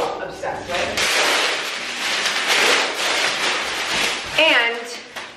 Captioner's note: plastic rustles